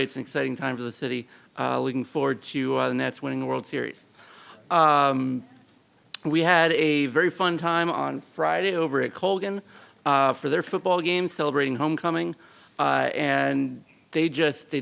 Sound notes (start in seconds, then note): none